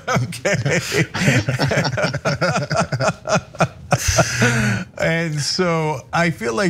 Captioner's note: laugh